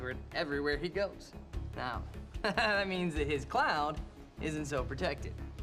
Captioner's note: chuckling